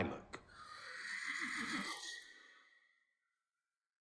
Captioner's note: horse neighs